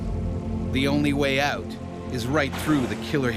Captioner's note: voiceover